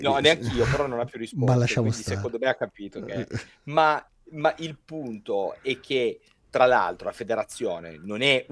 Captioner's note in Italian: risate